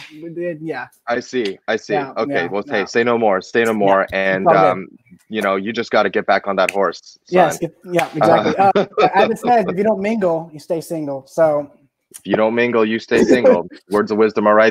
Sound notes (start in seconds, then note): 7.9 laughs